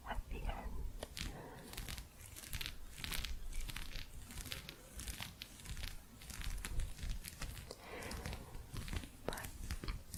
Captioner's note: gentle scratching